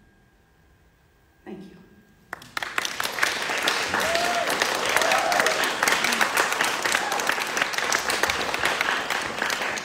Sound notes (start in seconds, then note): 2.3 audience clapping; 3.4 audience cheering